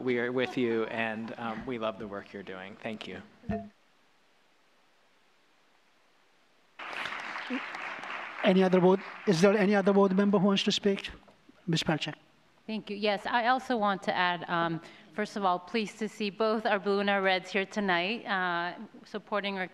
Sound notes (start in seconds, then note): 6.8 applause